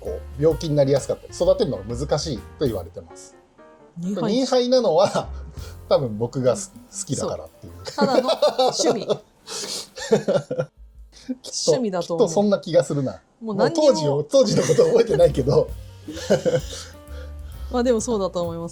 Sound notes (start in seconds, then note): 9.7 laughs